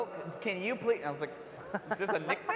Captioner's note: panel laughs